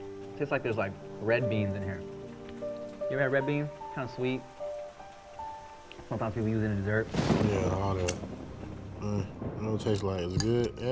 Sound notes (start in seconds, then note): 0.0 raining; 6.1 thunder Clap